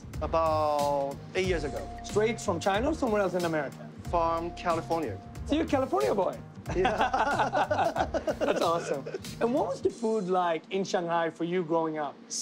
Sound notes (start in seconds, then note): 6.7 laughter